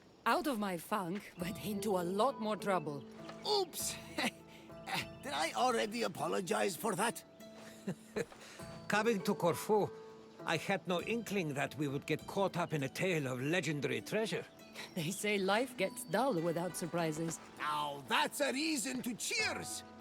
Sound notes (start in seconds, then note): 4.8 laugh; 7.6 laugh